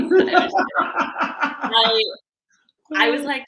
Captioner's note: laughing